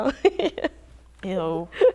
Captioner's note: laughs